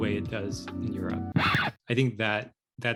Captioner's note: record Scratch